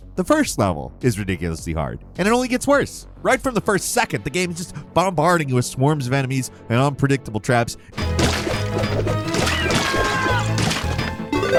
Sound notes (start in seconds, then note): 8.1 blood squelching; 9.6 vulture crying; 10.6 blood squelching